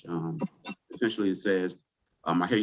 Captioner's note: chuckles